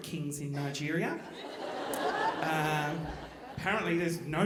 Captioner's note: audience laughing